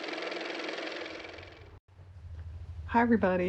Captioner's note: car motor